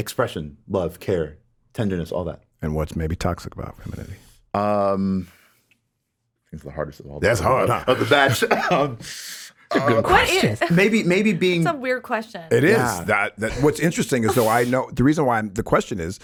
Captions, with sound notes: - Expression, love, care, tenderness all that. - And what's maybe toxic about femininity? - I think it's the hardest of all. - That's hard, huh. - Of the bad (chuckles). - That's a good question. - Maybe being- - That's a weird question. - It is. - What's interesting is, so I know the reason why the question,